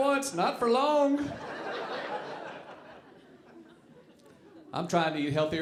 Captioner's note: audience laughing